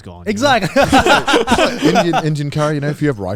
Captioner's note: laughs